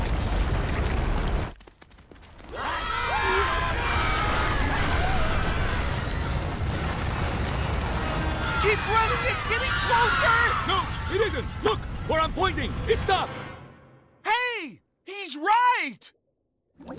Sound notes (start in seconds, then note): 2.5 screaming